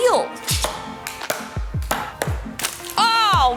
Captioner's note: hammer thudding